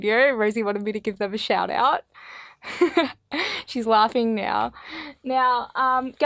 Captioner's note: laugh